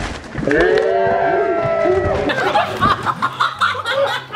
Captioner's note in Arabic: الكل يصرخ; الجميع يضحك